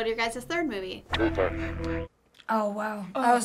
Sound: staticky voice

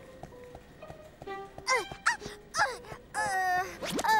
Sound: groaning

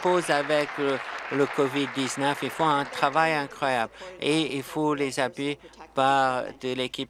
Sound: applause

